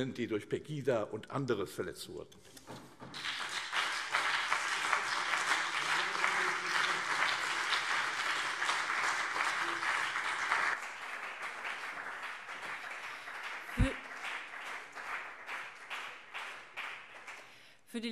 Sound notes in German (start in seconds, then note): 3.0 Beifall CDU und BÜNDNIS 90/DIE GRÜNEN